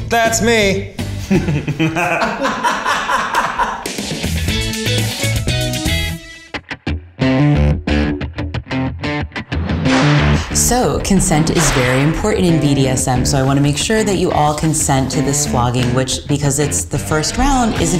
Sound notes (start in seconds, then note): 1.2 all laughing; 3.3 upbeat music; 7.1 electronic music